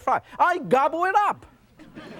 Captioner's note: audience laughs